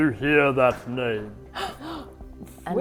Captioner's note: gasping